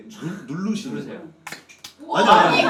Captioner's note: pop!